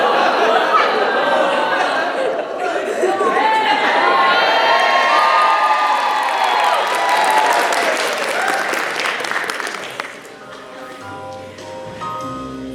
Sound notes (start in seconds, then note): 0.0 audience boos; 2.4 audience cheers; 10.5 smooth jazz